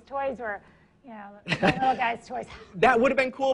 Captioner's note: laughs